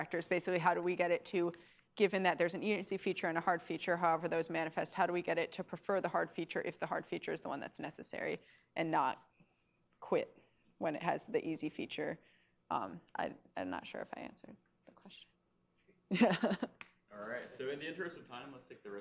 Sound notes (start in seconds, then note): 16.1 laughs